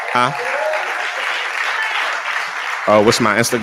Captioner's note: applause